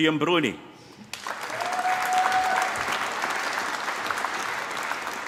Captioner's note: applause